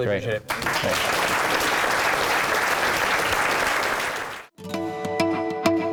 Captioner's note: applause